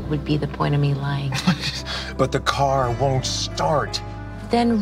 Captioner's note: laughs